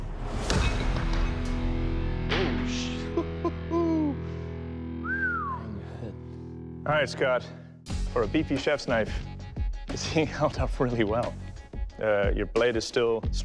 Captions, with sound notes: Holy sh-- [laughs] [whistles] All right, Scott. For a beefy chef's knife, this thing held up really well. Your blade is still straight.